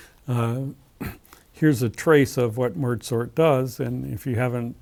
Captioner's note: cough